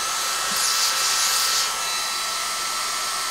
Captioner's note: machine noise